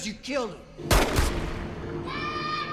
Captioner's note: gunshots fire